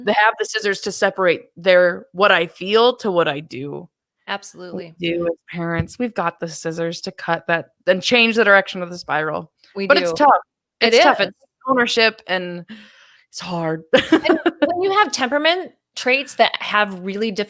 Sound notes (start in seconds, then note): 14.0 laughs